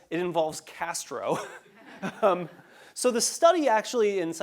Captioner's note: laugh